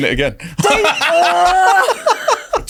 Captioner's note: everyone laughing